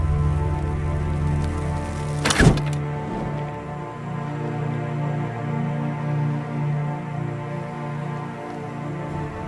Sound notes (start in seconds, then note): 2.3 arrow whooshes